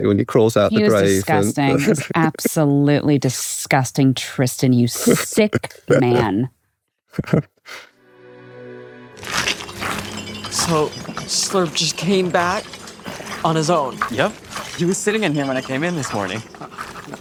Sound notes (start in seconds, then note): 9.6 slurp slurping